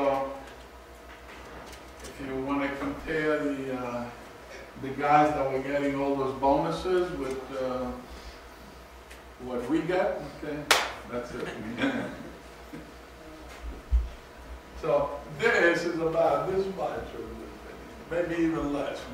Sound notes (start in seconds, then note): 11.4 students chuckle